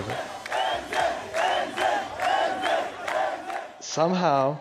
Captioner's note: chanting